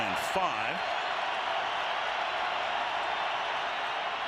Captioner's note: crowd cheering